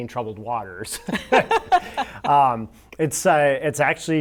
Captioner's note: laughing